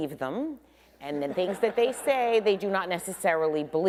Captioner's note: attendees laughing